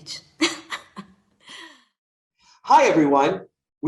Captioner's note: laughing